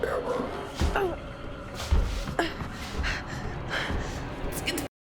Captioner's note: Claire grunts